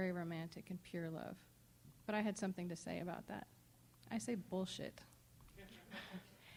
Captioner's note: laughs